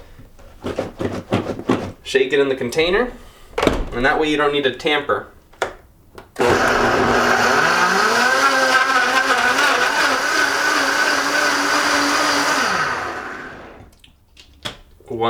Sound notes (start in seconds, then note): 6.4 whirring